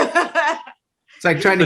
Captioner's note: laughing